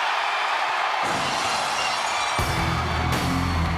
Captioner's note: audience cheers; glass shatters; upbeat music